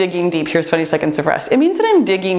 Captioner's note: timer beeps